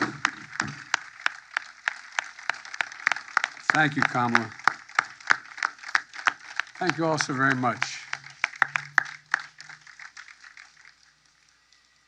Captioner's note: cheers and applause